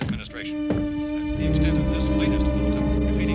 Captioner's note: murmuring; foreboding instrumental music